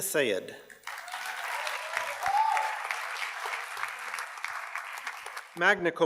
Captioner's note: audience cheers and applauds